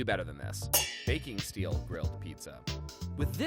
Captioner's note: metal clangs